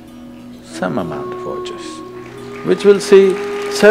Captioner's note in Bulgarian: Аплодисменти